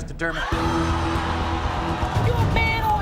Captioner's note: audience oohs